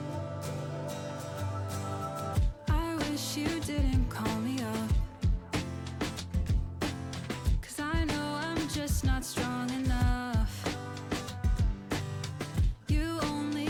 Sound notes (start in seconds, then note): none